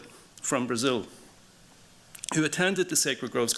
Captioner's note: none